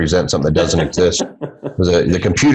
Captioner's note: laughs